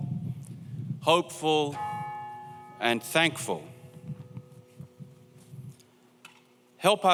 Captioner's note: bell tolls